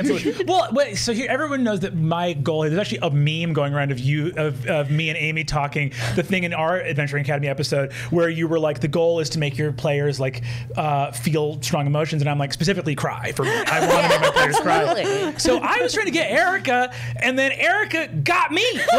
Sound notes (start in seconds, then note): 13.4 laughter drowns out Brennan